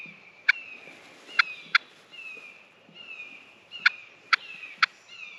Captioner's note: crows cawing